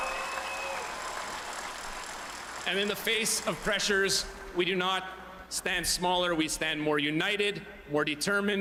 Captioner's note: cheering and Applause